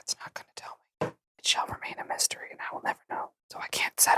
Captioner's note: whispering